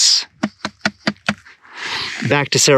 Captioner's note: taps bucket repeatedly